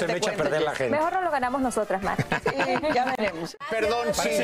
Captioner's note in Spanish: risas